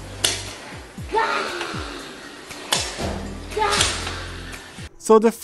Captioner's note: cute roar